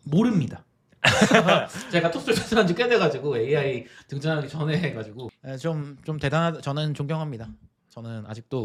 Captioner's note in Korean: 웃음